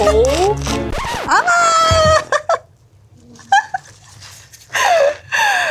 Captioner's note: laughs